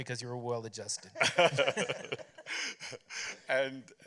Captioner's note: laughter